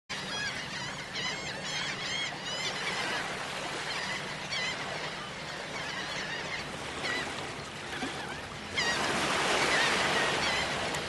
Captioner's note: seagulls Cawing